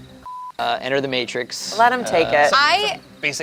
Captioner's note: beeps